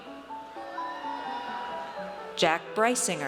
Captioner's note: audience cheers